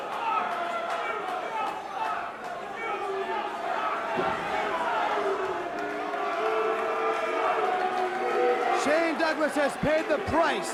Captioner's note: crowd cheering